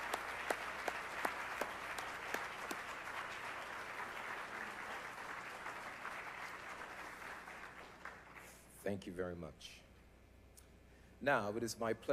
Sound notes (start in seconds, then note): 0.0 applause